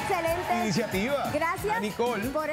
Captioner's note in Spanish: aplausos